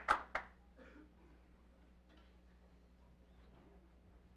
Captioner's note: applause